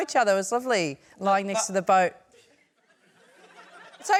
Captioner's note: laughter